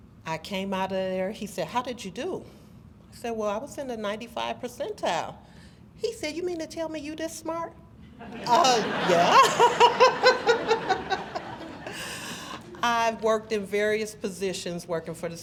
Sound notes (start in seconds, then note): 8.2 audience laughs